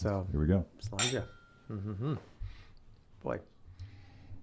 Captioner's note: glasses clinking